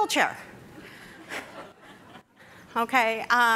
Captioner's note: audience laughing